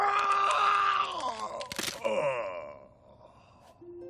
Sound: yelling; neck cracking

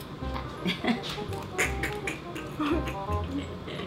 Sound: laughing

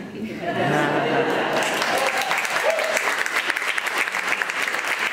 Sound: laughter and applause

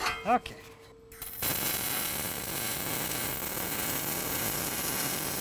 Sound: welding electrode sparking

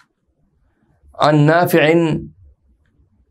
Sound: arabic

